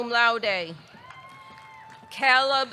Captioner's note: audience cheering